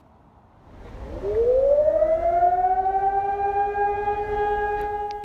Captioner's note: air raid siren starts